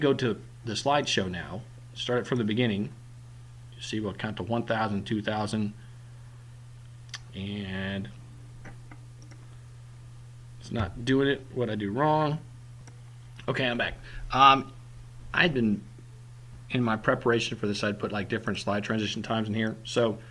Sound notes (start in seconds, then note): 9.2 click